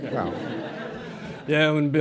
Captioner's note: laughter